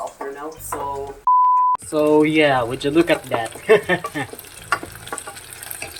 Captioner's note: laughs